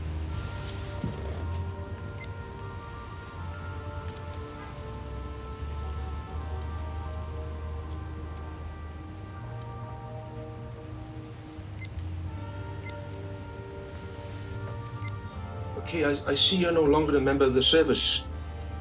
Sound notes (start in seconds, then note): 4.7 street noise